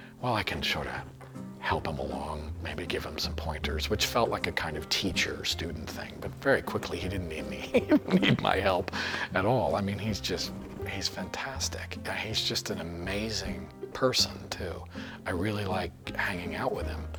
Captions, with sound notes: "Well, can sort of help him along, maybe give him some pointers," which felt like a kind of teacher-student thing. But, very quickly, he didn't need me. [chuckles] He didn't need my help at all. Mean, he's just... he's fantastic. He's just an amazing person too. Really like hanging out with him.